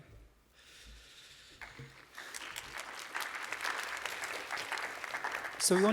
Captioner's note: applause